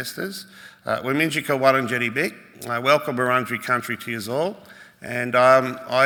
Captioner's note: speaks Woiwurrung